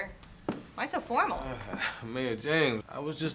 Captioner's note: chuckles